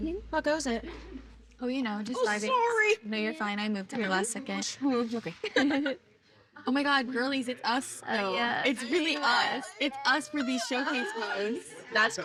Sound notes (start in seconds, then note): 5.4 giggles